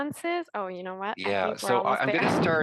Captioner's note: laughs